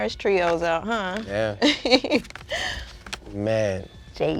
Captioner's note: laughing